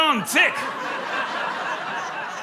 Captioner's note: laughter